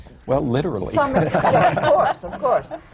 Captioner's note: laughter